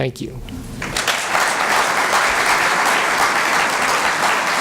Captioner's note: applause